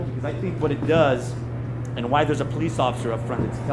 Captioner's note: none